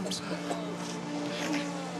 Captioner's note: men coughing